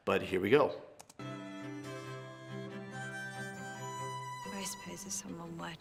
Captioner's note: keyboard clicking; upbeat chamber music